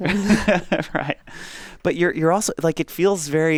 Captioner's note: laughs